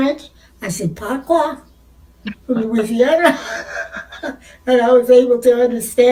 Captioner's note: non-english speech